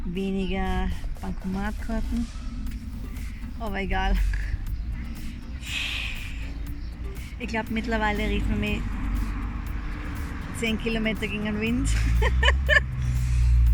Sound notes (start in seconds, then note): 5.7 sigh; 11.9 laughter